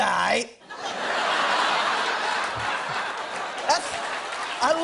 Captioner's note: laughter